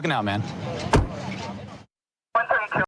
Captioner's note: car door closing